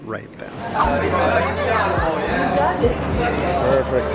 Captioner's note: crowd chattering